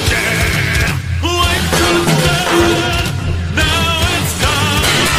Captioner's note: can rattles with the background action music